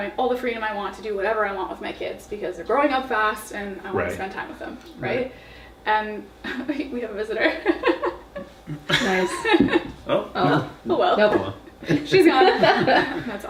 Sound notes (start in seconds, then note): 8.4 laughs; 11.0 laughs; 11.8 laughing